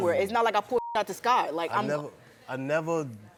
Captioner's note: beep